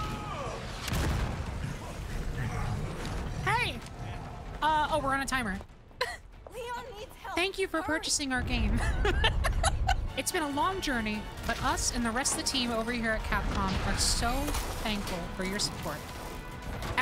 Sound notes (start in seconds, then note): 8.7 laughter